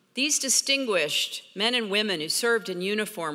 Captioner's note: none